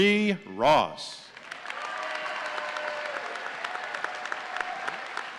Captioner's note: audience cheering